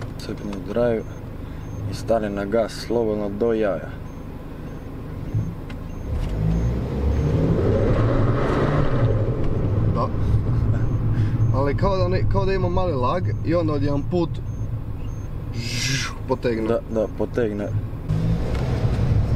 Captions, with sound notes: put it in drive mode and press the gas pedal to the max yup but i fell like it has a little lag and then out of nowhere *pro engine noise* starts yup,yup starts